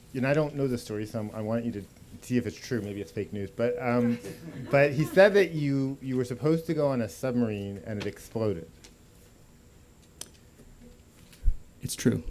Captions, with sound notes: You know, I don't know the story, so I want you to see if it's true. Maybe it's fake news [laughter]. But you said that you were supposed to go on a submarine and it exploded. >> It's true.